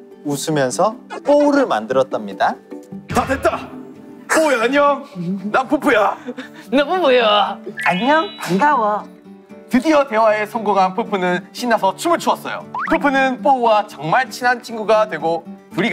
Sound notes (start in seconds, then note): 2.9 Peupeu's manly voice; 7.8 Ppowoo with sweet voice